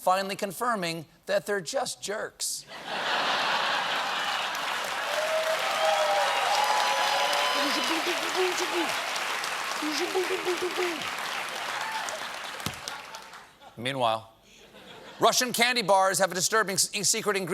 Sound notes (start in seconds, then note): 2.7 laughter; 4.0 cheers and applause